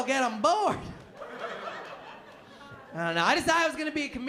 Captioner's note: laughter